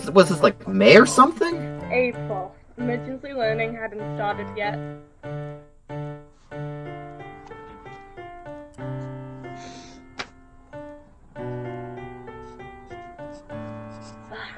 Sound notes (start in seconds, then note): 6.8 sad music; 8.8 sniffles; 12.2 writing noises